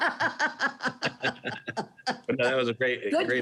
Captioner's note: laughs